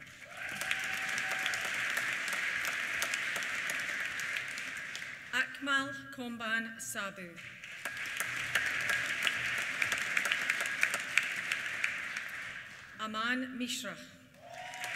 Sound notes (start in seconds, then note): 0.0 applause; 0.0 cheers; 7.3 applause; 14.3 cheers